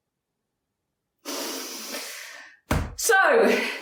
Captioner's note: woman inhales